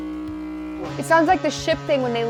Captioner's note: horn blaring